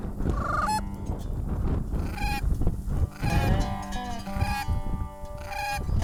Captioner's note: bird calls